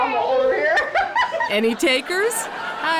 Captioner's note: woman laughs